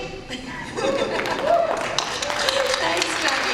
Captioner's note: applause and cheers